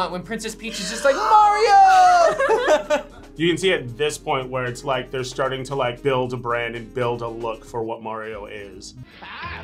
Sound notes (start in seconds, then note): 1.8 both laugh